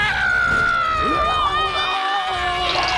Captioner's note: screams